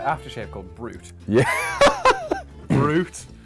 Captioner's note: laughs